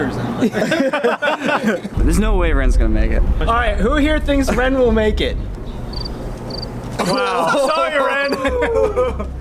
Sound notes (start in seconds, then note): 0.4 more laughter; 5.5 crickets